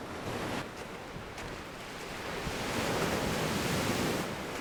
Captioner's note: waves